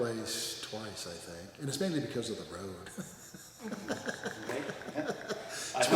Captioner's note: laughs